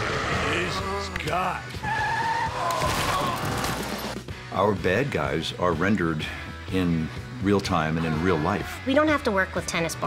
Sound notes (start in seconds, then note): 0.0 moans; 1.8 tires squeal